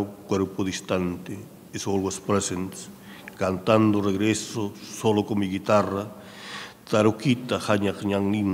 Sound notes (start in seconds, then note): 3.4 speaking in a foreign language